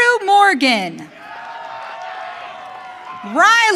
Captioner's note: audience cheering